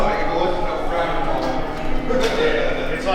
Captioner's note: crowd Chattering